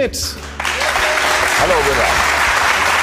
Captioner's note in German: Applaus, Jubel